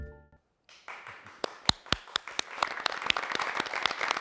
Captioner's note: audience applauds